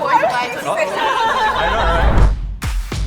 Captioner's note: laughs